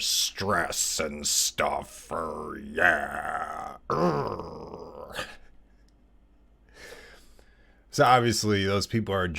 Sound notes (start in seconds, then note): 4.0 laugh